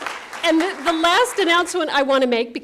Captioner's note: applause